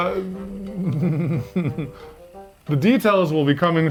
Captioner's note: laughing